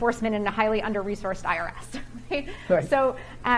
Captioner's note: chuckles